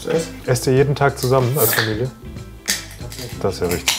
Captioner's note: can hissing